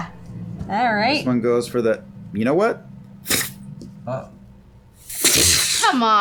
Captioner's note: two puff noises